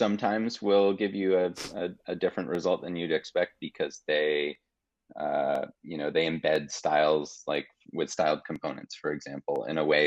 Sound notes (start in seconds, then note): none